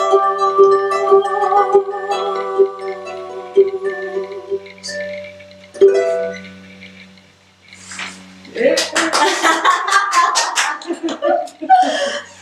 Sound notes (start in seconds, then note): 8.6 clapping